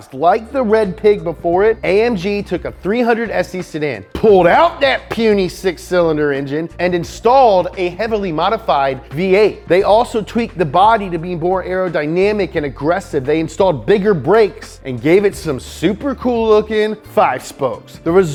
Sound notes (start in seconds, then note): none